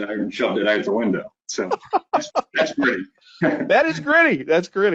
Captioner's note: laughing